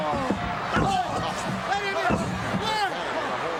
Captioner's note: referee shouting